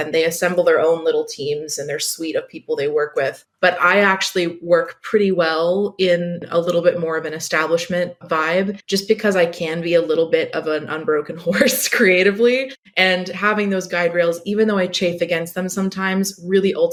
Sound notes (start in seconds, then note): 11.7 laughs